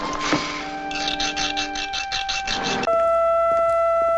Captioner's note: sawing